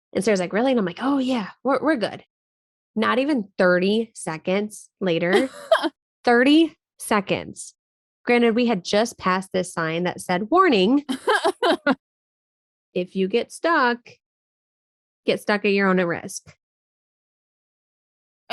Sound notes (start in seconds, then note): 5.3 laughing